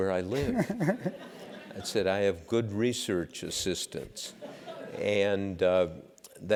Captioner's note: laugh